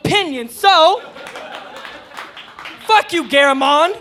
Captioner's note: audience clapping